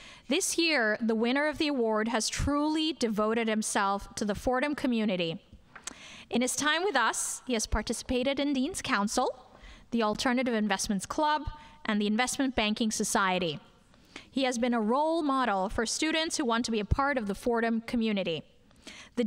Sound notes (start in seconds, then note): none